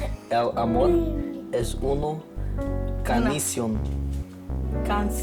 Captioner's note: speaks in foreign language